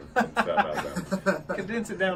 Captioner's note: laughter